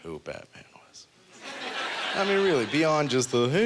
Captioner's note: audience laughter